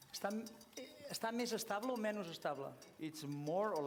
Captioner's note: non-english speech